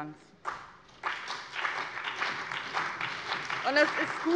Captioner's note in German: Allgemeiner Beifall